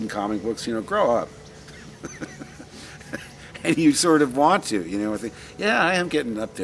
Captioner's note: laughs